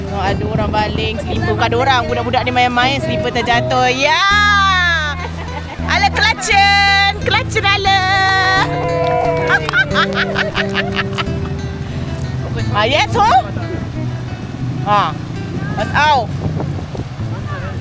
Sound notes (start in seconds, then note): 2.8 laugh; 7.9 claps; 11.4 laugh; 14.9 speaking German